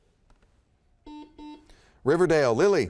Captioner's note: buzzer beeps